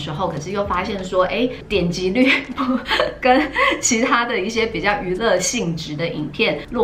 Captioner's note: laugh